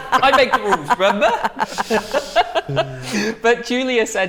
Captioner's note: laughter